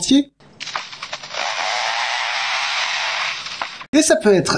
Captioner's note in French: Bruit de tronçonneuse